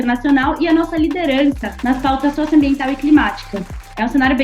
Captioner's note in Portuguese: aplausos